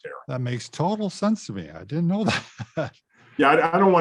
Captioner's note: laughs